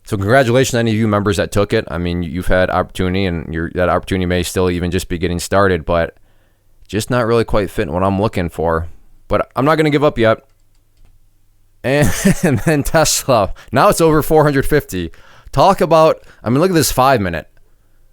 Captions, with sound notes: So, congratulations to any of you members that took it. I mean, you've had opportunity and that opportunity may still even just be getting started, but just not really quite fitting what I'm looking for, but I'm not going to give up yet. And (laughing) then Tesla, now it's over 450. Talk about, I'm gonna look at this five minute.